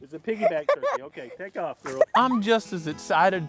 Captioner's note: laughing